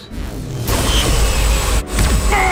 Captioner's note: zapping; grunts